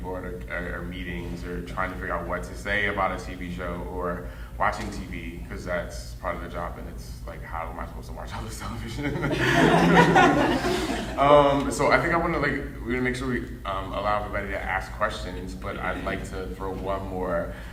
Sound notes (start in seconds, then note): 9.0 audience laughing